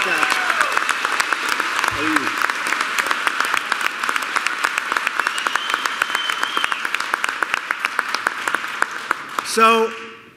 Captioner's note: applause